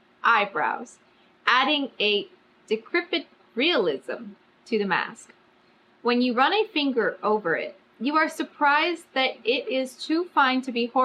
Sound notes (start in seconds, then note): none